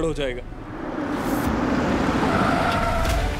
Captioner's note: tyres screeching